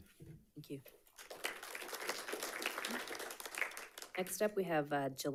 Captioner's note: audience applauding